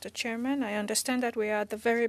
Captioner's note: speaking French